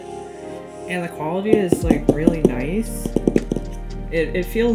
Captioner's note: taps on the board